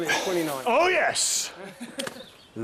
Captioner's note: laughs